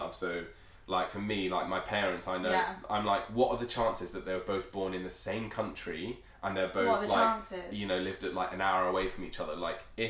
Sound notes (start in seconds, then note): none